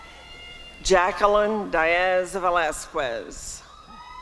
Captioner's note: applause and cheering